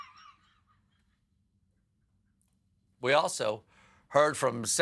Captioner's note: laughter